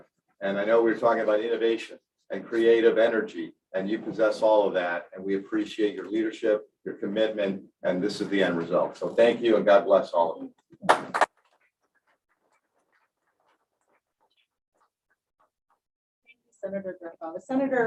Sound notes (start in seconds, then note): 10.8 applause